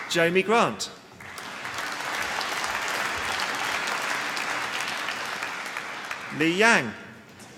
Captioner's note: applause